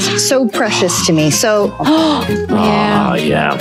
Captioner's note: Colman gasping; gasping